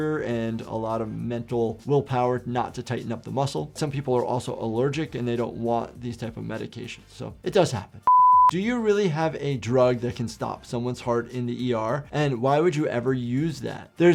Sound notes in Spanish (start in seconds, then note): 8.0 pitido en pantalla